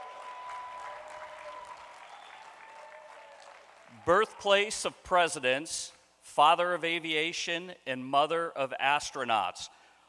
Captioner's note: applause